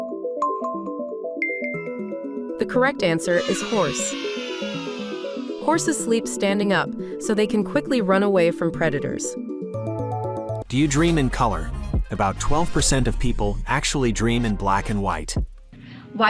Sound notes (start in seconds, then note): 3.3 children cheering